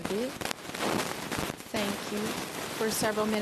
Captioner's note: speaking French